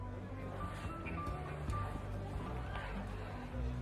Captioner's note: distant chatter; distant party music